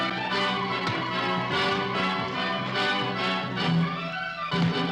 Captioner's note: fists whacking